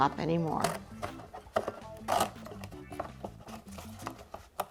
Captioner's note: box tearing